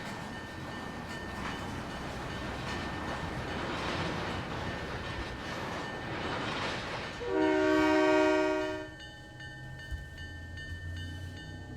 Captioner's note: train whistle